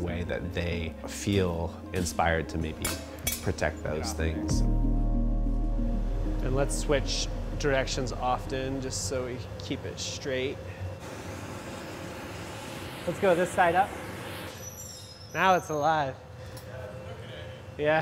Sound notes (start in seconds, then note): 10.9 torch hisses